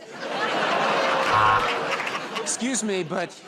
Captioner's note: laughter and applause; buzzer